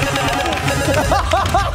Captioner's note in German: Buzzer